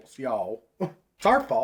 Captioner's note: scoff